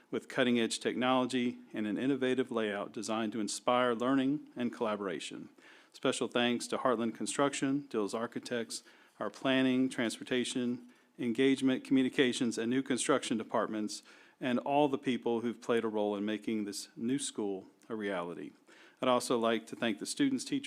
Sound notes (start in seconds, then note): none